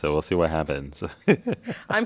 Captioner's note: laugh